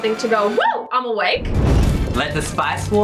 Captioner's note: fire whooshes